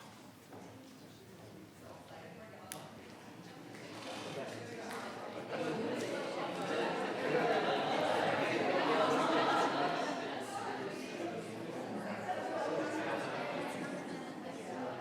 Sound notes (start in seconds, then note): 7.9 loud chatter and congratulations